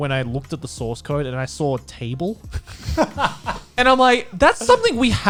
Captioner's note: guys laughing